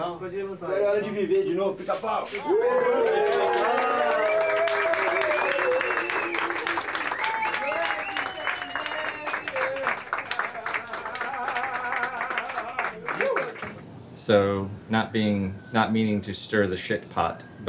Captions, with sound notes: (all chattering) (all cheering and clapping) - So not meaning to stir the shit pot,